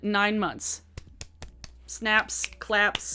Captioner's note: claps